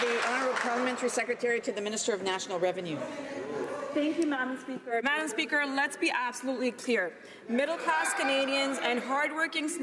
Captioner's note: some Applause